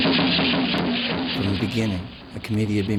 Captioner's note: voiceover